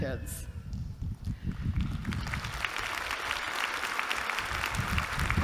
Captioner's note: applause